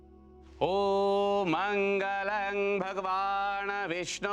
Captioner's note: chanting in foreign language